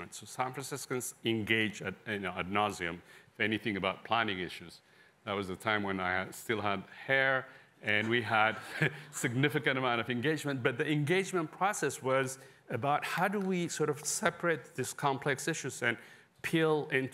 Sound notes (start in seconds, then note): 8.5 laughter